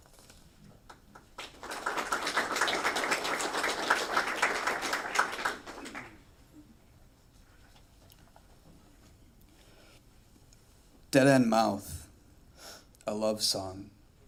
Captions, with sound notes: [applause] Dead End Mouth, a Love Song.